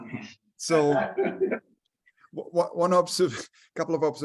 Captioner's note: members laugh